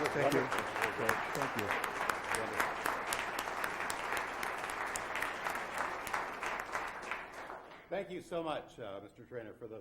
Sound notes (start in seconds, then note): 1.8 crowd applauds